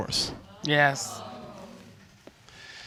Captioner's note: audience groans